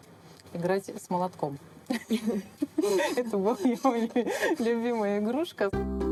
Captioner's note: laughing